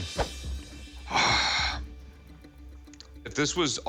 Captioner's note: sighing